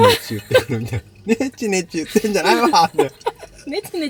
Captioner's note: laughs